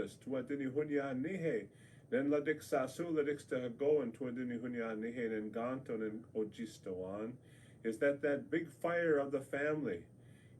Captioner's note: speaks native language